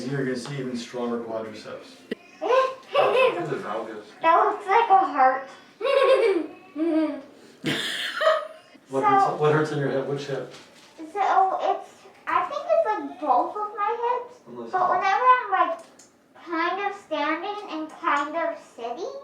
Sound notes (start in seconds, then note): 2.8 laughs; 7.6 laughs